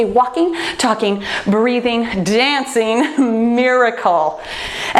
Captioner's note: laughs